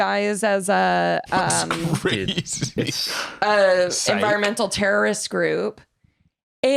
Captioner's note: laughing